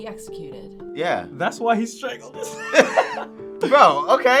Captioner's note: laughs